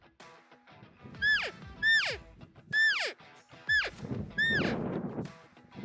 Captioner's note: elk call